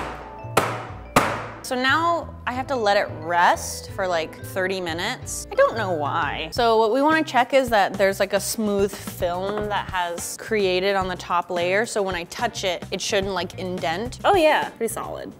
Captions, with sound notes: (tapping) So, now I have to let it rest for like 30 minutes. I don't know why. So, what we wanna check is that there's like a smooth film that has created on the top layer so when I touch it it shouldn't like indent. Oh yeah, pretty solid.